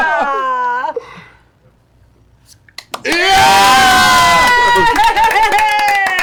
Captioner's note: laughter; cheering